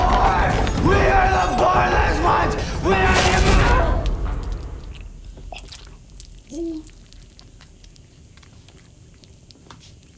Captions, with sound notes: We are the Bornless Ones! (blood gushes)